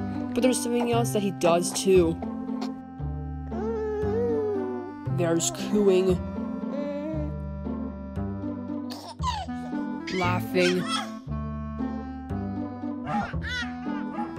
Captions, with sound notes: But there's something else that he does too. [Baby Flint Cooing] There's cooing, [Baby Flint Cooing] [Baby Flint Laughing] Laughing, [Robot Dog Barking and Baby Flint Cooing]